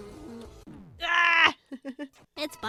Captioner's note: laughs